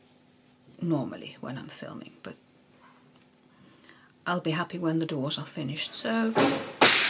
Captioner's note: loud crash